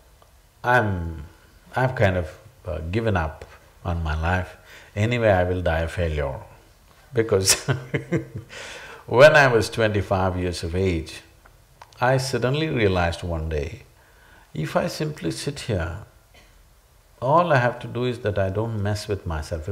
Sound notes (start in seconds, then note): 7.3 laughs